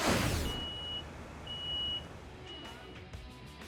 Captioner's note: beeping